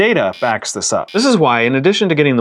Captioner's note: buzzer